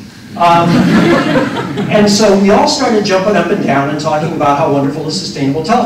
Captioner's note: laughter